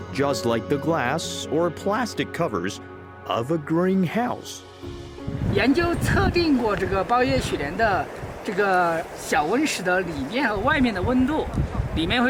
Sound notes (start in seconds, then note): 5.2 speaking in foreign language